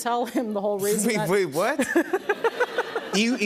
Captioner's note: laughter